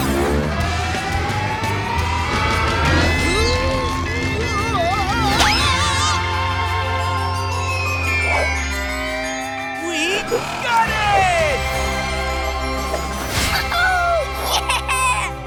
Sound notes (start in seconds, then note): 2.9 straining; 4.9 shouting